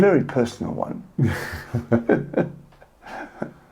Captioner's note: both are laughing